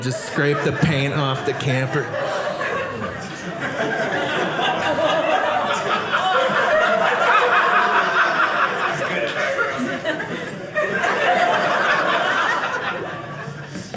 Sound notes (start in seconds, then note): 2.3 audience laughing